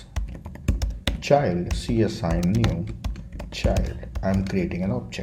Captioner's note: keys clicking